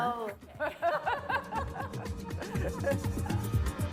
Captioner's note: laughter